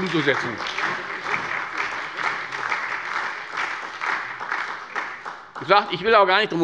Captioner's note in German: Beifall bei der SPD und der FDP